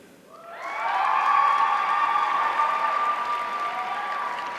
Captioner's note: audience cheering